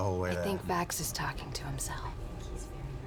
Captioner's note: whispering